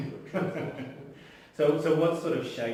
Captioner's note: laughs